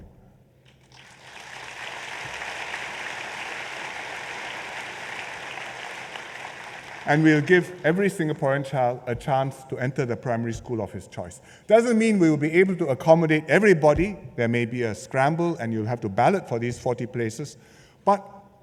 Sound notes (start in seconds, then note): 0.9 applause